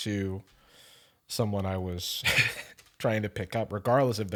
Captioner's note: chuckles